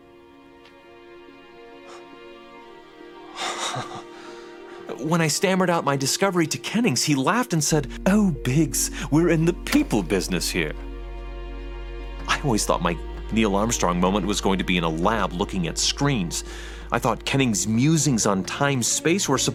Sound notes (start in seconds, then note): 0.2 somber music plays; 3.4 Horatio laughs